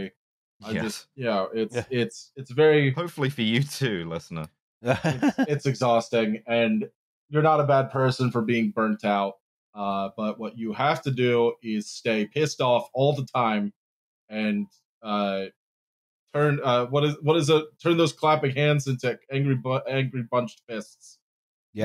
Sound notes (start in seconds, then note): 4.8 laughs